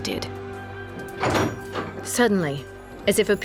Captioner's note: door opens